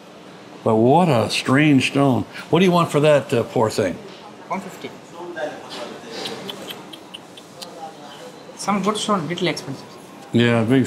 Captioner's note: tuts